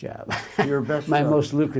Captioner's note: laughs